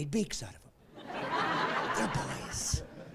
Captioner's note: laughing